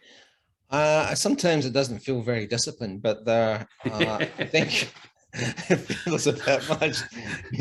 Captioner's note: both laughing